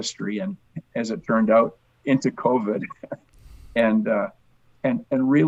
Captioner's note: chuckles